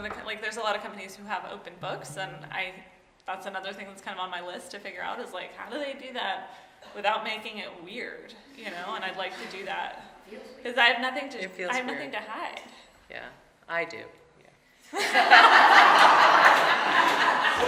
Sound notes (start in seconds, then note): 14.9 audience laughing